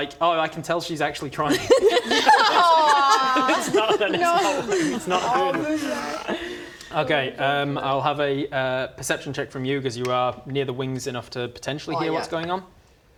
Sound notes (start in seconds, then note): 1.5 mean laughter